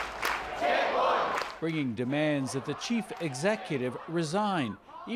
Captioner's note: chanting